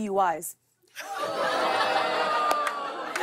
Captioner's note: audience ohs